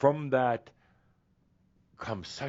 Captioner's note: none